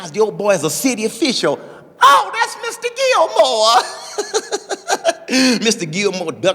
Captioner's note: woman laughing